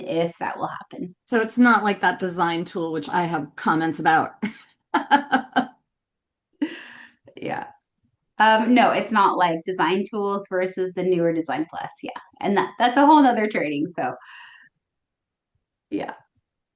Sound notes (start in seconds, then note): 5.3 laughing